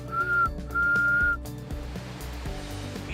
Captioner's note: whistles